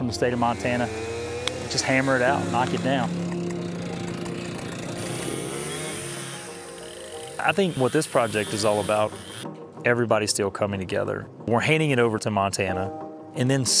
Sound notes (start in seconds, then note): 5.5 chainsaw whirs